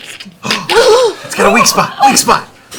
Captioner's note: shattering; gasping